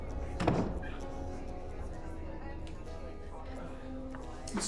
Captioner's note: doors creak; doors close